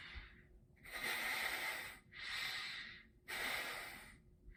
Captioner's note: nose sniffing